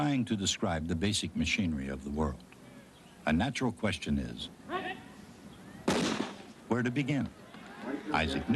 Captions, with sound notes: THE BASIC MACHINERY OF THE WORLD, A NATURAL QUESTION IS... [GUNSHOT] WHERE TO BEGIN.